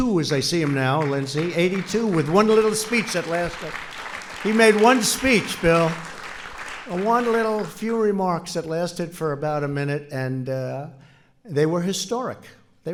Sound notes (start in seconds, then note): 0.0 applause